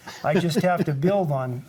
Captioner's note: laughs